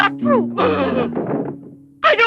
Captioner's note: banging